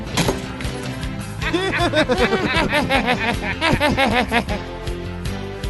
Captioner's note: laughs